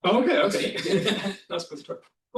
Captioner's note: laughter